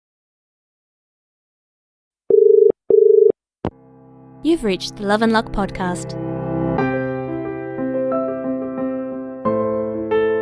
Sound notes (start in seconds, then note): 2.8 dial Tone